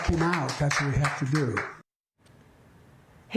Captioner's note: applause